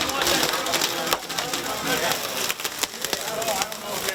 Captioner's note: glass crunching